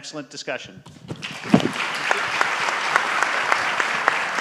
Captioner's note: audience applauds